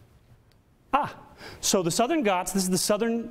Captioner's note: excited exclamation